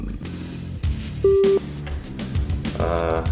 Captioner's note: beep